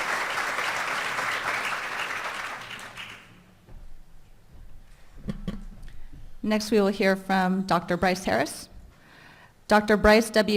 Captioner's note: applause